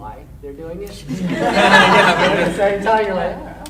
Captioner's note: audience laughing